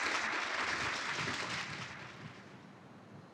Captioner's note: applause